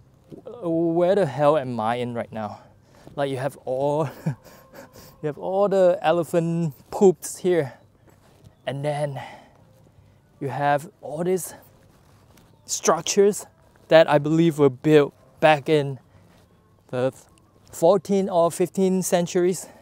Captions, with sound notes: where the hell am I in right now? you have all the *chuckle* you have all the elephant poops here and then you have all these structures that I believe were built back in the 14-15th century